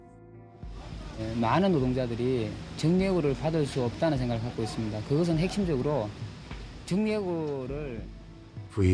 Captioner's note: soundbite of archived recording